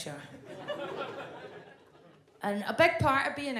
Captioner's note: audience laughs